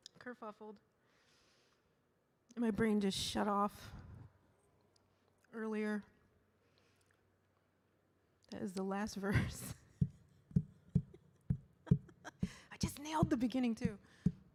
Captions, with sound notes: My brain just shut off earlier. That is the last verse. (laughs) (slow tapping) I just nailed the beginning, too.